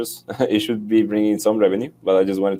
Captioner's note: chuckles